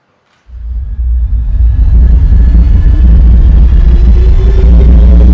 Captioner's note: electronic warbling